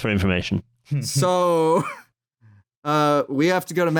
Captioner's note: chuckles